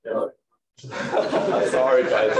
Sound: laughter

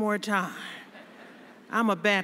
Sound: laughter

